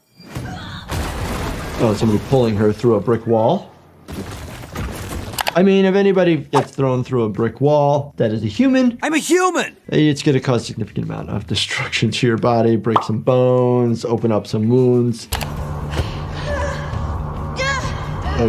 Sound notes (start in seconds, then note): 4.0 bricks crash; 15.0 person gasps